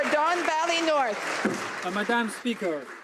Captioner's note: some Applause